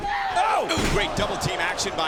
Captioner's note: King exclaims